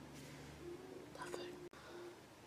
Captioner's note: whispers